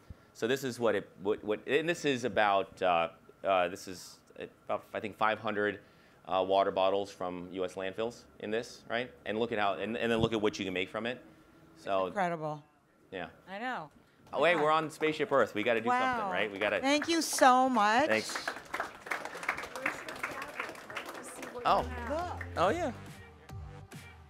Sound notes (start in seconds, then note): 17.5 audience applauds